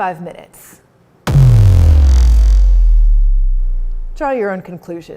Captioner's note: dramatic sound effect